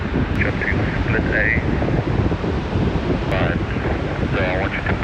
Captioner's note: speaking faintly